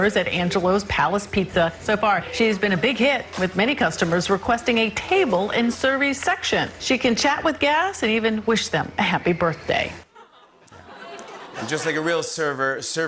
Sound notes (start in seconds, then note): 10.1 laughter